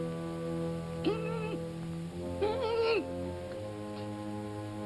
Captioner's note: whimpering